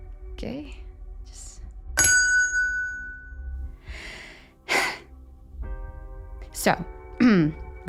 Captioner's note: she hits a bell